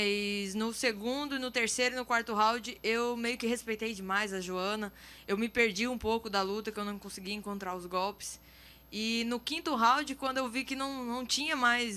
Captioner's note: speaking in foreign language